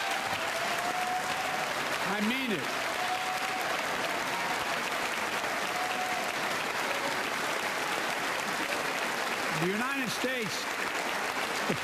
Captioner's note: applause